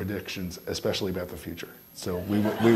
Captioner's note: all laughing